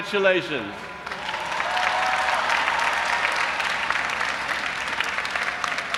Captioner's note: audience applauding and cheering